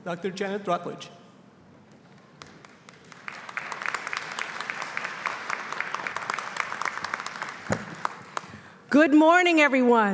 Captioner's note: applause